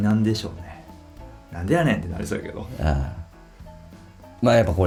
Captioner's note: laughs